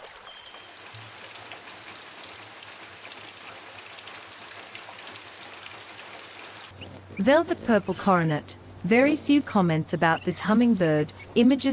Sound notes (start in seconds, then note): 0.0 birds chirping; 0.0 rainfall